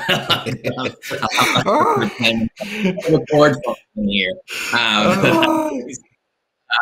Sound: laughing

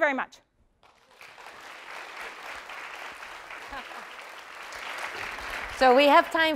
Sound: applause

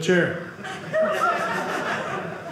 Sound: audience laughing

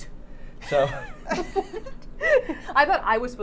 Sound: laughing; Safiya laughing

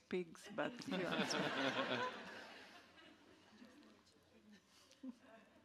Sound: audience laughing

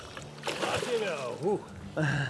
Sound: splashing

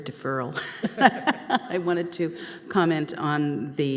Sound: laughing

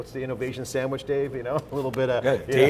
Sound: laughs

